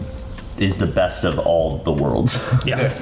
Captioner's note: chuckles